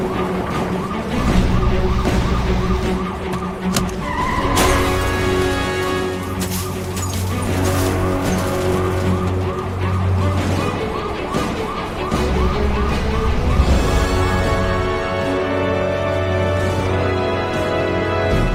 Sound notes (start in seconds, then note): 4.7 ambulance